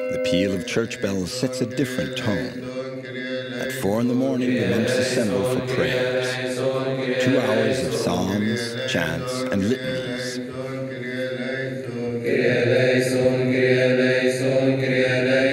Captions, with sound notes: the appeal of church bells sets a different tone. At 4:00 in the morning, the monks assembled for prayers, two hours of psalms, chants, and litanies. [Arabic spoken audio]